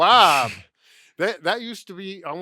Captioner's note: chuckles